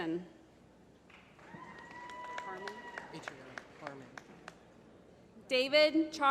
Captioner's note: applause